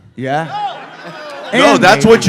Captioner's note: cast disagreement sounds